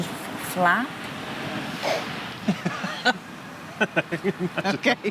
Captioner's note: derisive laughter